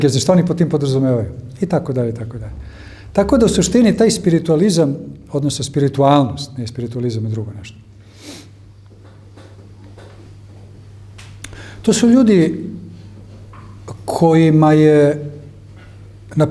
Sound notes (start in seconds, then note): 9.6 snort